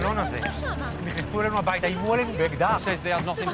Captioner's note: they speak hebrew